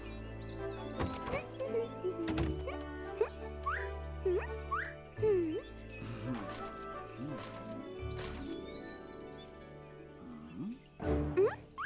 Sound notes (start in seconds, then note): 1.1 humming tune